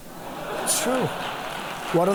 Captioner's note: applause